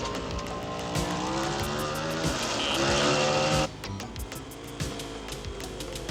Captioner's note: motorcycle engines roaring